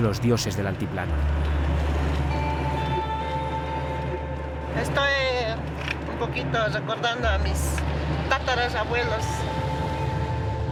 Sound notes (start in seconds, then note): 5.3 speaking in foreign language